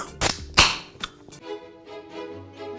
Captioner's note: can opening; classical music